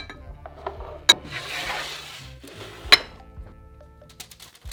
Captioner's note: sheet pan sliding